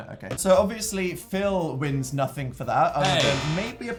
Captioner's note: sound of failure once again